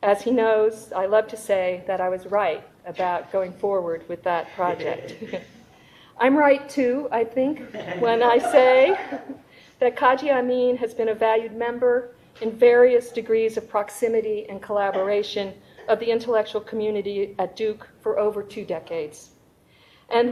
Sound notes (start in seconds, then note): 4.3 attendant laughing; 7.7 audience members laughing